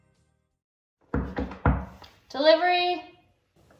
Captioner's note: knocking